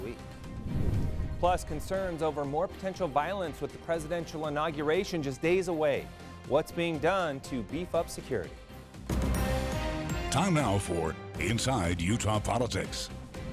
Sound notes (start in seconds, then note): 0.3 air whooshing; 9.6 upbeat music